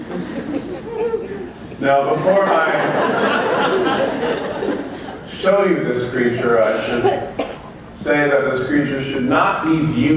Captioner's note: laughter